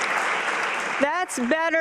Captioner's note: applause